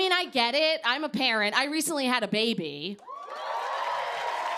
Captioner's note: cheers and applause